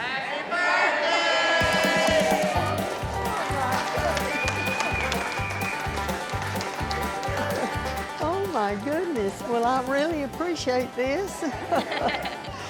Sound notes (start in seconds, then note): 4.1 everyone cheering; 5.3 clapping